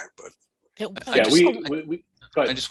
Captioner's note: chatter